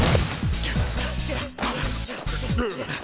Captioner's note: panting; music slows